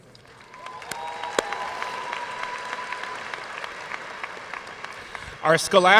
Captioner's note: audience cheering and applauding